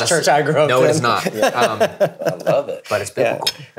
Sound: laughing

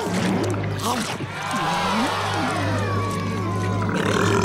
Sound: audience groaning; burping

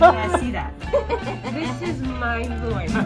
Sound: laughing

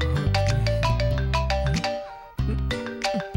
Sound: mobile rings again

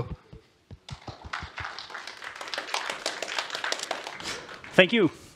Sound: applause

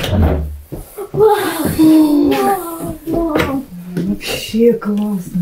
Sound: gasps of amazement

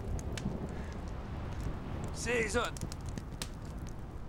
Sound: speaking Gaelic

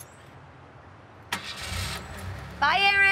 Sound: engine revs

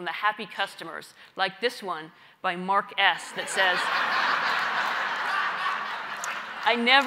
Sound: laugh

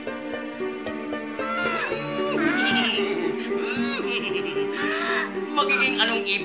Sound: cawing; neighing

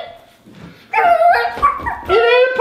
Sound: girl laughs; barking

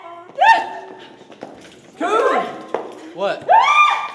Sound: screaming; moaning

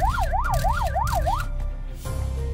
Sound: camera clicking

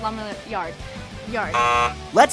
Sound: buzzer

